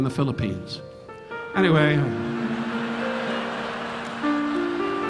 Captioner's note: audience laughing; relaxing piano music continues